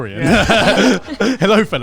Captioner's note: all laughing